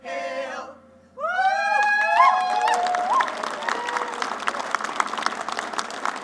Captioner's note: applause